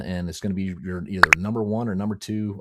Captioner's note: button pops